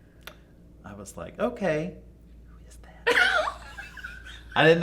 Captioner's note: whispering